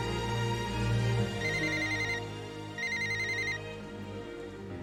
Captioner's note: riiiiiiing Riiiiiiing